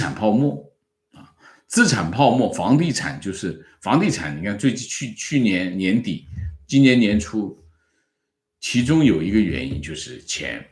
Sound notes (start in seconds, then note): 6.2 bubble